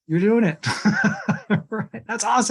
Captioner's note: chuckles